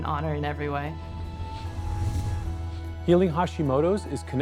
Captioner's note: whooshing